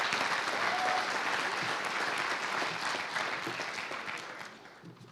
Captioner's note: applause